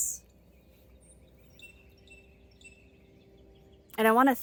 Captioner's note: birds chirping